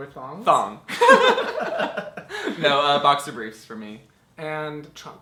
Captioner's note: laughs